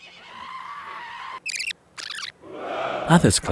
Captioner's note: tape rewinding